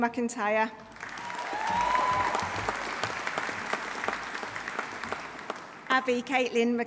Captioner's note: audience applauding; audience cheering